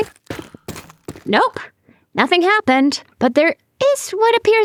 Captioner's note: footsteps